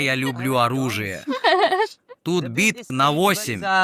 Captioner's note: laughter